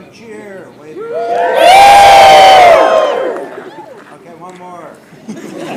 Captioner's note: cheering